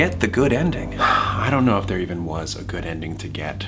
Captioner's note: sighs